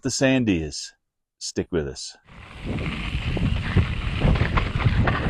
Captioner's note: bike whirring